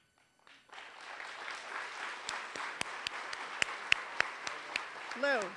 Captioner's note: applause